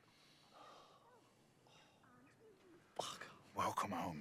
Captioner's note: exhales slowly